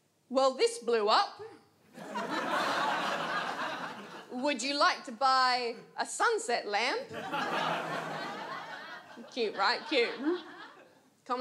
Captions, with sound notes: "Well, this blew up." [AUDIENCE LAUGHS] "Would you like to buy a sunset lamp?" Cute, right? Cute, huh?